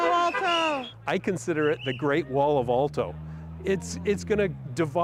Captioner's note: honking